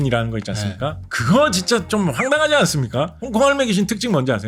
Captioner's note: playful sound effect